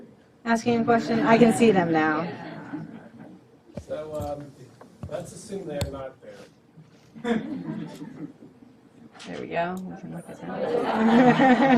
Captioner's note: laughter